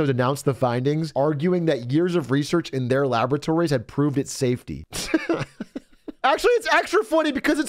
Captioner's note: laughs